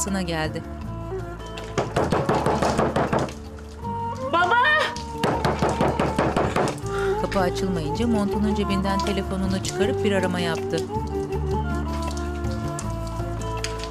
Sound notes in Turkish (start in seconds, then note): 1.8 Kapı vurma sesi; 4.9 Kapı vurma sesi; 7.7 Müzik - Duygusal